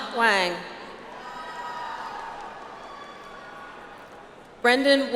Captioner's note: audience applauds